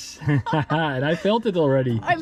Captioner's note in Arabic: يضحك